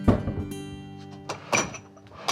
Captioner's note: dishware clattering; cupboard door closes